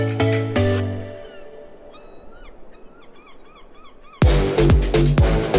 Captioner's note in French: cris de mouette